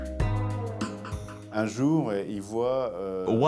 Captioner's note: non-english speech